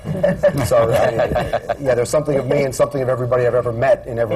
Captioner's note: laughter